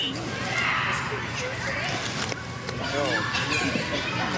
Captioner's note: children clamoring